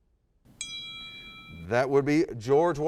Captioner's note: ding